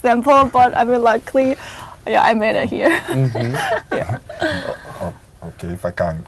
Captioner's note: chuckles